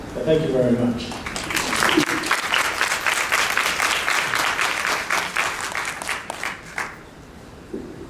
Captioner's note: applause